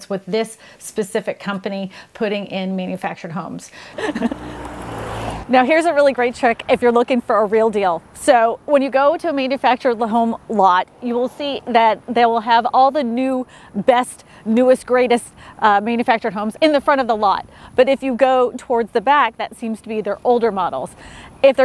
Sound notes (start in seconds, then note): 3.8 car rumbling; 3.9 chuckles